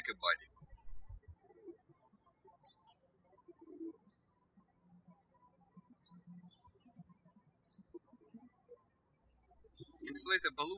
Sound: birds chirping

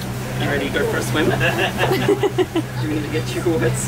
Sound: giggling

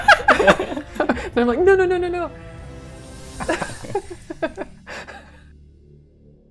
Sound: laughter; laughter

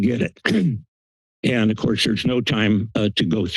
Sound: clears throat

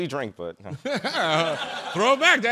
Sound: chuckling

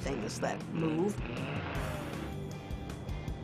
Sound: engine revving

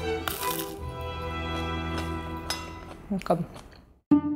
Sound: bread crunching

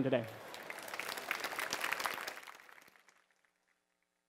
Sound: applause

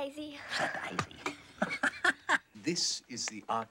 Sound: laughs

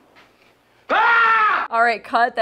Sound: Mickey screaming

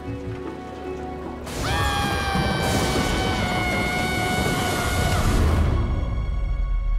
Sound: screaming

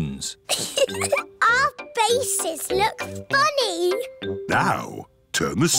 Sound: giggles

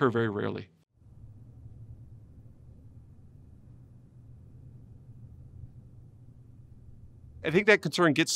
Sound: silence

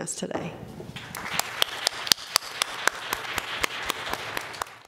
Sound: applause

